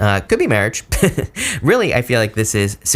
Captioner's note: reader laughs